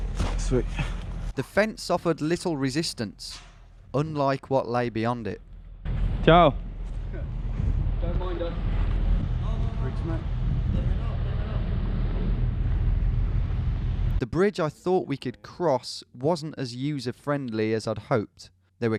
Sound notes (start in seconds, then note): 6.5 speaking in a foreign language